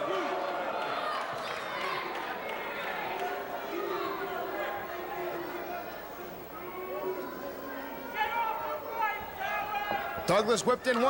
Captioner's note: crowd chatter